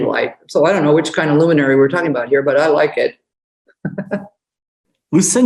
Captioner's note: laughs